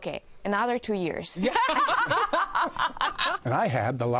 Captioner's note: all laugh